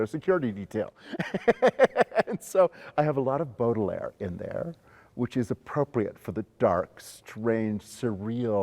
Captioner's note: laughs